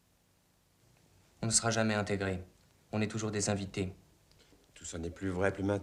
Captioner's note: speaking french